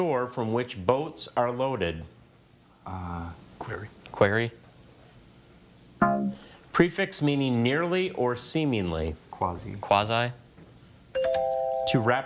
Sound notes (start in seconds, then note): 6.0 bell blares; 11.2 bell chimes